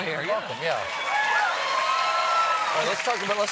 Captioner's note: applause